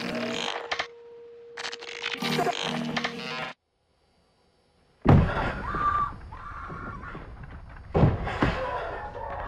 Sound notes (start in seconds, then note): 5.0 thudding; 5.6 woman screaming